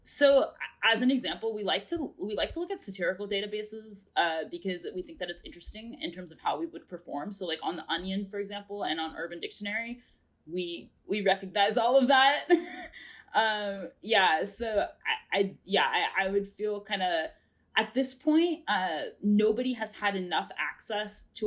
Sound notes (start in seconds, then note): 12.5 chuckles